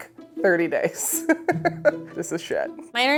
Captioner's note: laughs